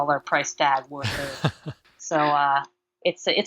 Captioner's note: laughing